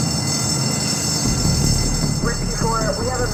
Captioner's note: bell ringing